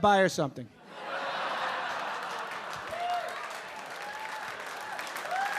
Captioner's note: audience laughing and clapping